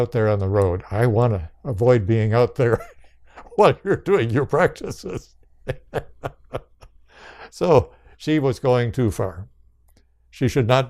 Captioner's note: laughs